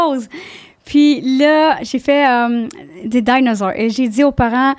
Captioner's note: in french